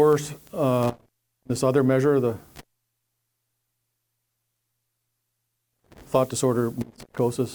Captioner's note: mic cuts out